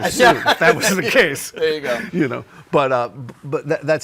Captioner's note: laughs